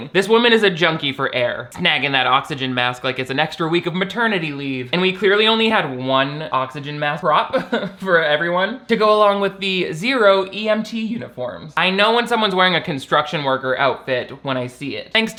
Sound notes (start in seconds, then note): 7.5 laughs